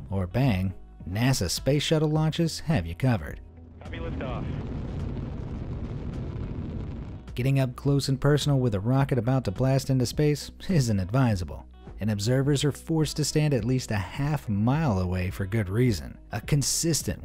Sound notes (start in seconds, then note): 3.7 rocket engine booming